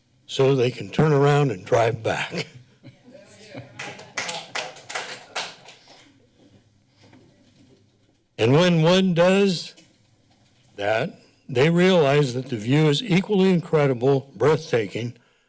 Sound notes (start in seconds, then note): 3.6 applause